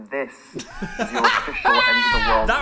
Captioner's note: both laugh